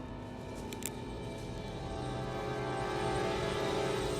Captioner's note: suspense music; ratchet's gun clicks